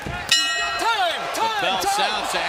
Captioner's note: bell dings